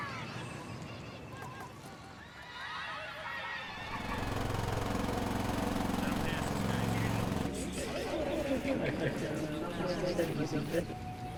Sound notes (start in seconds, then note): 0.1 children shouting; 6.2 machinery rumbling